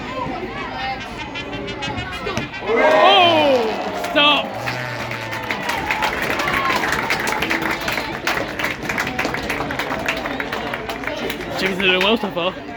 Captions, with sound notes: [Trumpet builds up] Ooh! Stopped! [Applause] Chickens are doing well so far!